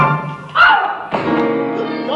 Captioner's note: screams